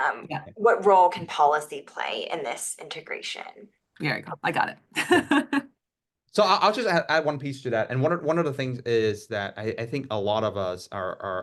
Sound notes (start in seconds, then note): 5.5 laugh